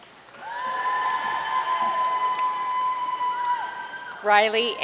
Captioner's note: audience cheering and applauding